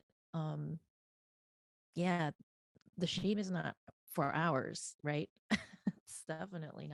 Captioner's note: laughing